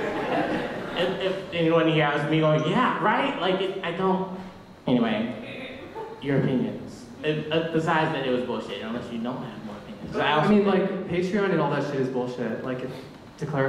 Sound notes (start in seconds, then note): 1.3 voiceover